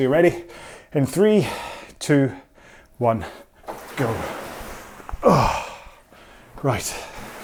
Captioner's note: exhales